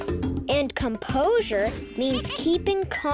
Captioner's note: planet laughing and clinking